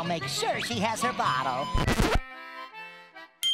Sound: record scratch

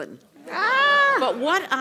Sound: laugh

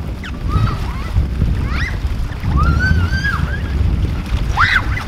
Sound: girls whooping and playing

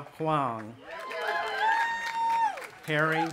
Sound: audience applauding and cheering

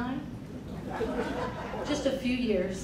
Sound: crowd laughing

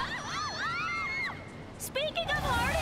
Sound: screaming

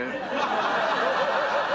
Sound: audience laughter

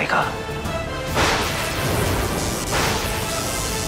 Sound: current flowing

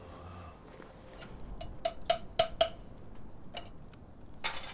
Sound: tapping can

